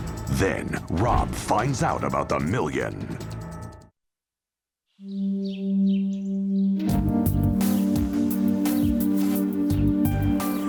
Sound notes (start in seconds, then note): 5.0 birds chirping; 7.5 suspenseful music